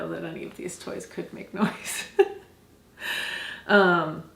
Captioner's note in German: lacht